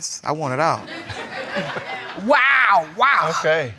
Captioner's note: all laughing